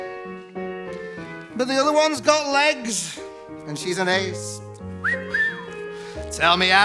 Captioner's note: wolf whistles